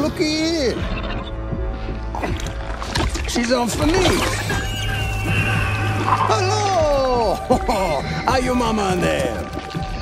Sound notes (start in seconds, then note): 7.4 chuckles